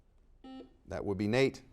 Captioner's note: buzzer dings